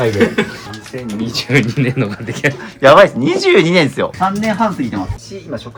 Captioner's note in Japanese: 笑い